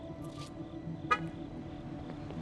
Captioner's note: car alarm activates